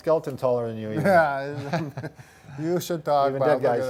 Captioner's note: laughs